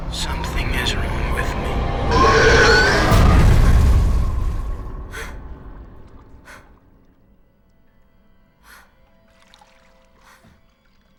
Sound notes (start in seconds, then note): 2.1 Mattie screaming; 2.9 Mattie gasping